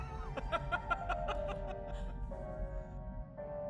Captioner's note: guffaw